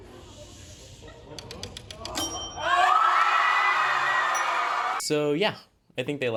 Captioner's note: agressive cheering